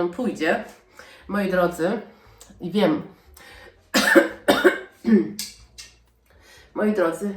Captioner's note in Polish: kaszel